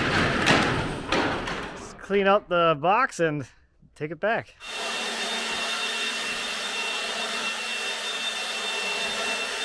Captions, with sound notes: Let's clean up the box and take it back. (hoover whirring)